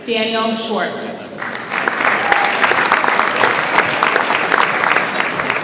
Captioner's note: audience applauds